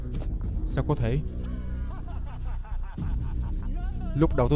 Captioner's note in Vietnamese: tiếng cười